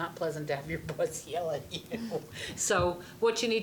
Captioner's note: laughing